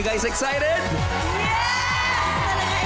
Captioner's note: audience cheering